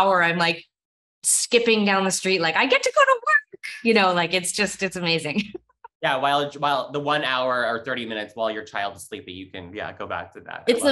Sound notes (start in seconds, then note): 6.0 laughs